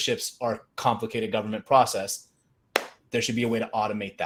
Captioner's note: palm taps